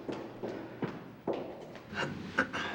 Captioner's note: clears throat